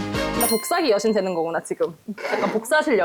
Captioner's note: excited sound effect